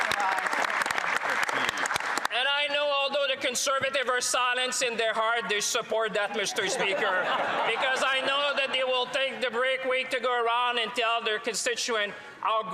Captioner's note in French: applaudissements